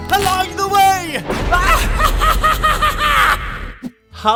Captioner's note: laughs